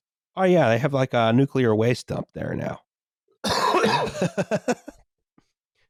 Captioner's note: laughs